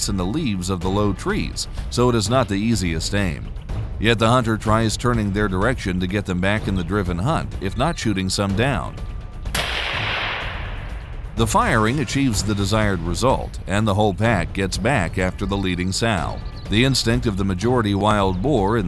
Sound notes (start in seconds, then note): 9.5 gunshot